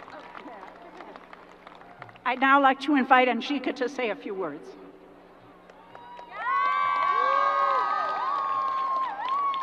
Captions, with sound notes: I now like to invite Anjika to say a few words. (crowd applause)